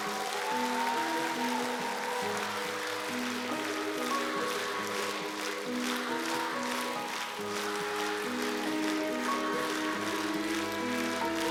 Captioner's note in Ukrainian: оплески